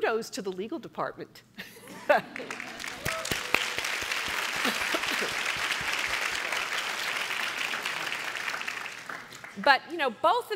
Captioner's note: laughter and applause